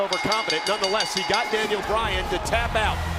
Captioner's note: bell ringing